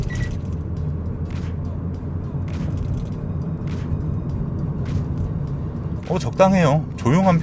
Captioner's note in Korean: 실제 노면 소리